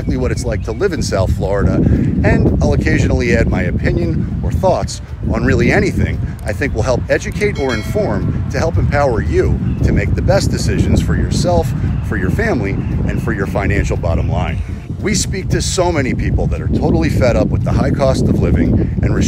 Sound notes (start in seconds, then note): 7.5 bell rings